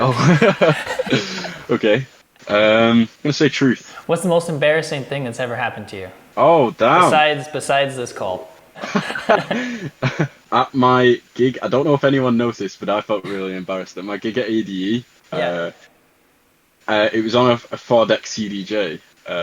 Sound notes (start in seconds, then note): 0.0 laughing; 8.7 both laughing